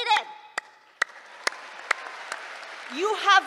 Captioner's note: applause